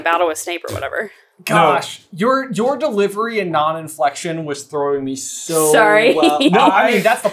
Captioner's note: laughing